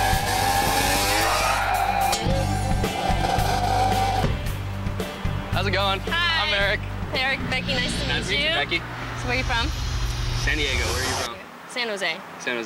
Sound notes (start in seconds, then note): 1.6 skidding tires; 3.6 dirt bike engine